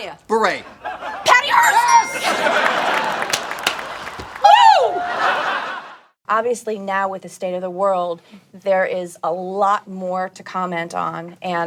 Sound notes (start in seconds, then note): 1.3 bell rings; 2.7 audience laughing; 2.7 cheering